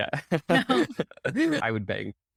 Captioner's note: chuckling